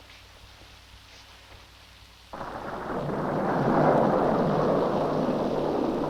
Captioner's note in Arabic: هدير الرعد